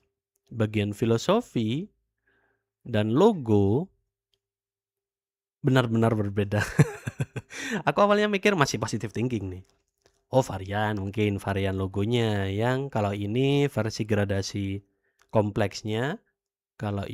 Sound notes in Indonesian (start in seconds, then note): 6.7 tertawa